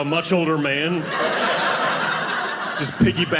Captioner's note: audience laughing